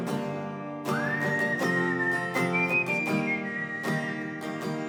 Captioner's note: whistling